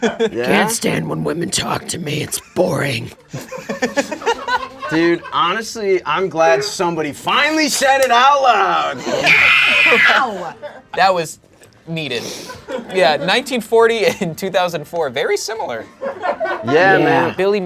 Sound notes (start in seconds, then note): 3.8 spirits laughing; 9.1 screams; 15.9 audience laughing; 15.9 laughs